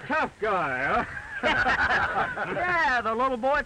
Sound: laughter

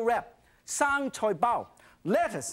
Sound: speaking in foreign language

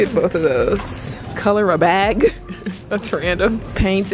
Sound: laughs

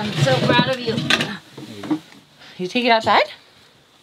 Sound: groaning

